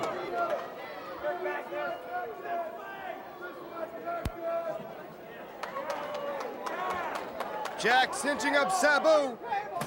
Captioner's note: crowd chatter; crowd cheering